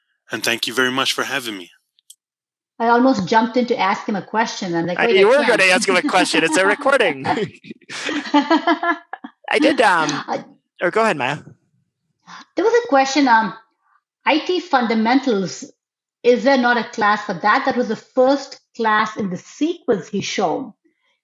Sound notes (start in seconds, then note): 4.9 laugh